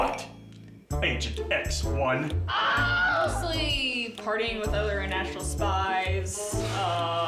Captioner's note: man screams